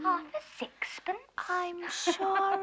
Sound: laughs

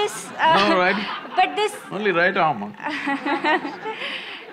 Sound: laughter

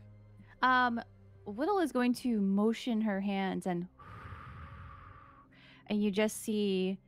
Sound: exhales

